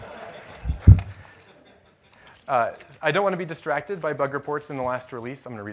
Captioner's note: laughter